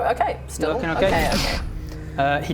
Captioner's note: doosh!